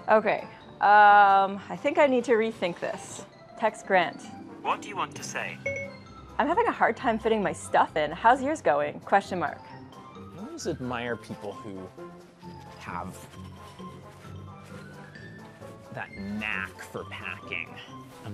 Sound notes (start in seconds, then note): 5.6 beep beep